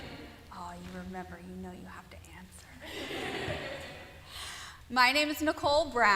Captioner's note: laughter